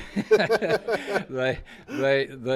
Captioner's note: laughing